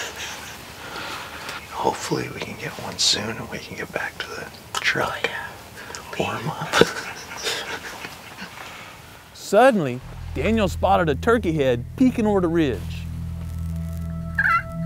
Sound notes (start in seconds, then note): 7.1 whispering